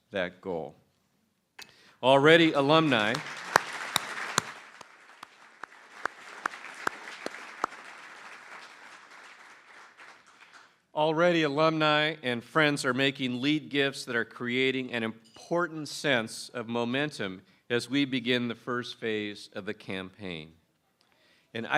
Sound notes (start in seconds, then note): 5.6 applause